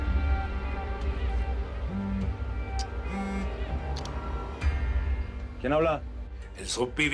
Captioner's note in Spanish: Zumbido de un celular